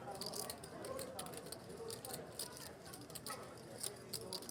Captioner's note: poker chips clacking